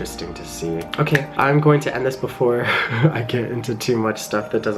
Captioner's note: laughs